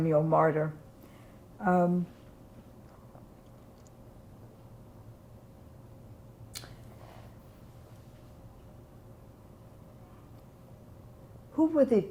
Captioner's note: pauses 10 seconds